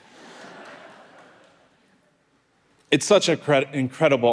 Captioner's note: audience laughing